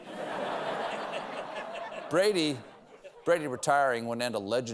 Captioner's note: laughter